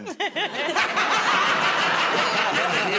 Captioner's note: laughter